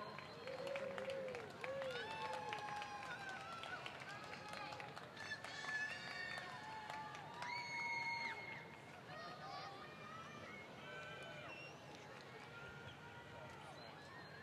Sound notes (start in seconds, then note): 3.9 cheers